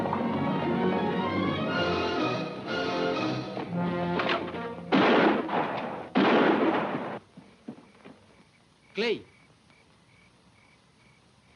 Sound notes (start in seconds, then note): 5.4 golpes de arma